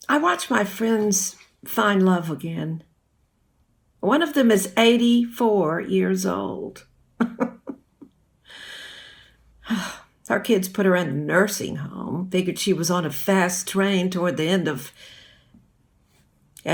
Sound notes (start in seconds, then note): 7.2 chuckles